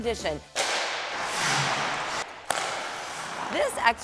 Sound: scrapes

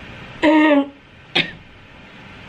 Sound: clearing throat

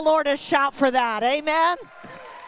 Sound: congregation applauding

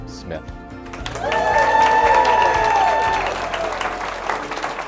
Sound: cheers and applause

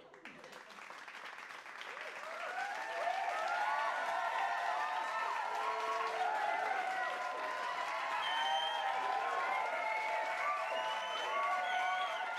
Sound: crowd cheering and clapping

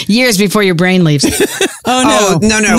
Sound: laughs

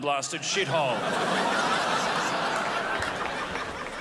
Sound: crowd laughs

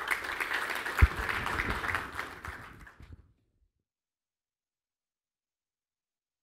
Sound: applause

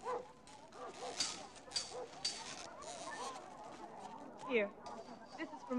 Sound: dog barking

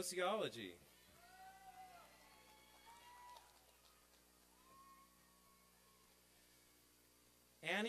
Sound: applause and cheering

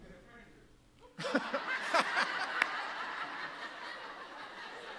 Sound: everyone laughs

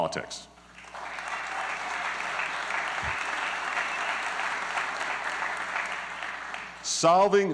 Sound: applause

